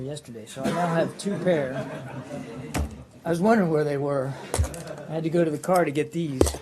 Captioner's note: laughter